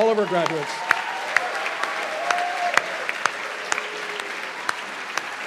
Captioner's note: cheers and applause